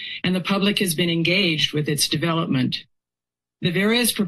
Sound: none

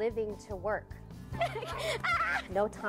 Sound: laughter

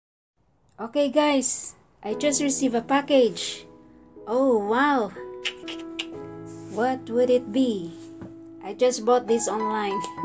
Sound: laughs

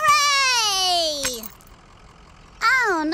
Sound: glass shatters

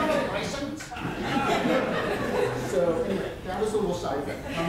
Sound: audience laughter

